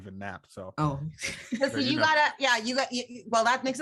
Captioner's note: laughs